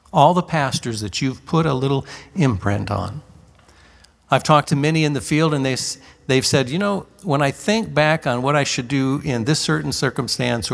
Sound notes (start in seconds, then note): none